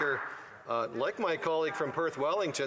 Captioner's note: some Applause